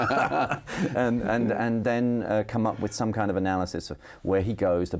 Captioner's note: both laughing